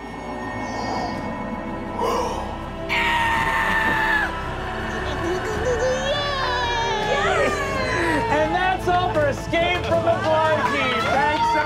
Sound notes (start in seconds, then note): 0.1 gasping; 2.9 screaming; 5.4 baby talk; 8.4 clapping